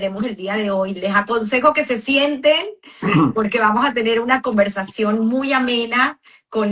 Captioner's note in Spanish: carraspeo